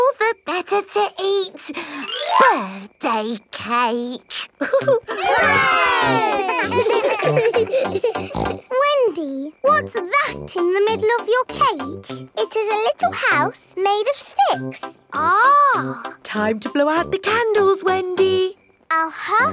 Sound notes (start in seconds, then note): 4.6 chuckles; 4.6 laughing; 7.2 snorts